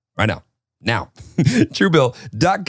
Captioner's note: laughing